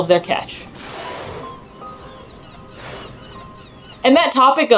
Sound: noise of seabird vocalizations; background music; noise of whale spouting

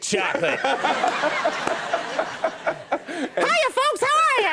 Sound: laughter

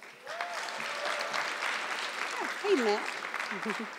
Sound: audience clapping

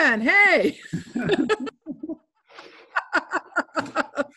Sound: laughing

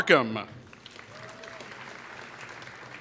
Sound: applause

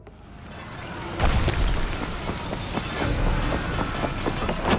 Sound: sounds of battle

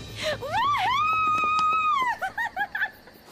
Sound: cheering

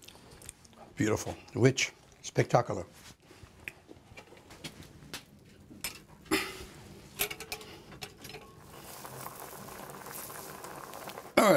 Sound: bubbling

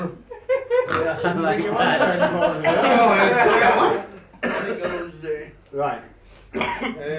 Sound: laughter and muttering

